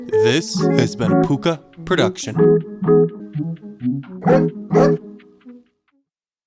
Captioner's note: woof-woof